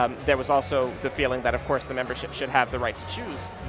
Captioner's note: none